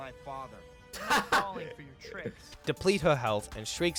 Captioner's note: laughs